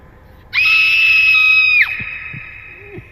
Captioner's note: scream; maniacal laugh